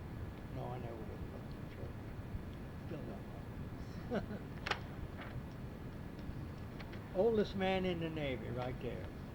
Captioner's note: pages turning